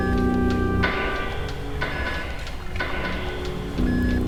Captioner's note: beeping